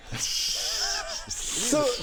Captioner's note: snickering